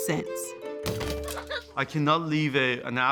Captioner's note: laughter